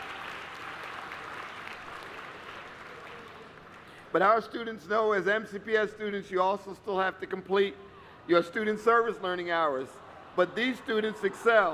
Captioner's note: applause